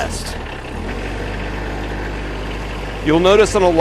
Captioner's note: engine noise